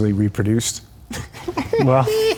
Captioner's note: Keanu laughs